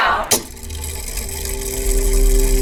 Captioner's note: mechanism whirring